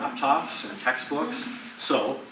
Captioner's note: audience laughs